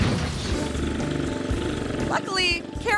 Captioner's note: engine rumbling